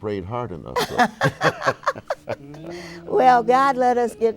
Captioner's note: both laugh